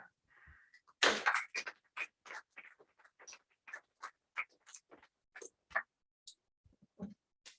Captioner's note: applause